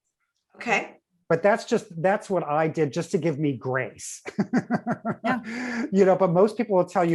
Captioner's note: laughs